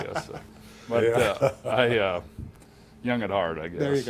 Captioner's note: laughing